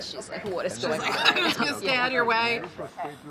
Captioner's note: laughs